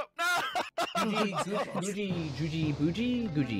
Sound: laughing

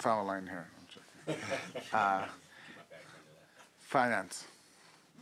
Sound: laughing

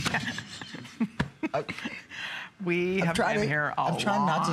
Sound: laughter

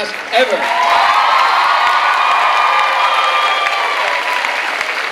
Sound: clapping and cheering

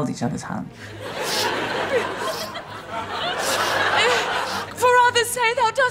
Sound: Beatrice sobbing, audience laughter

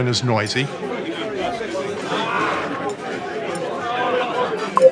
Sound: indistinct chatter

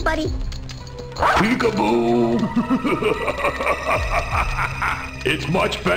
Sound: evil laugh

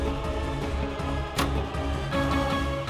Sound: door opening

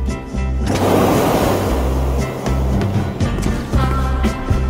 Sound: gas hissing

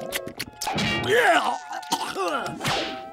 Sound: gagging

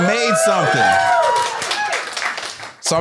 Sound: applause

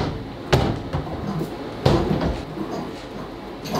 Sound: metal rattling; light thudding

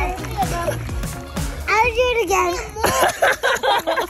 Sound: laughter

